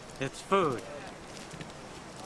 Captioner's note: footsteps